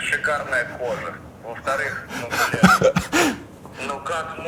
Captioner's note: laughs